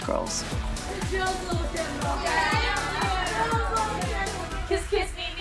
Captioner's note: indistinct chatter